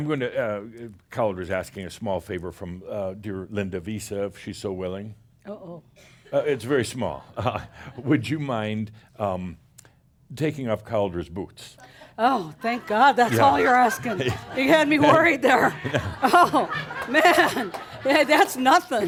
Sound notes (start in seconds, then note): 12.5 laughter; 16.1 she chuckles